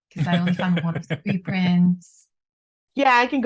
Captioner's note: laughs